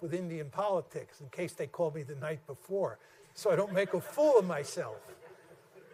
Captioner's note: laughter